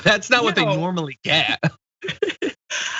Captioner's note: laugh